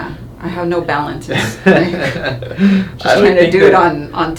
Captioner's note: chuckles